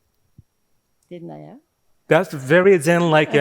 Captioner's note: speaking in foreign language